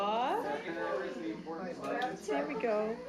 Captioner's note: overlapping chatter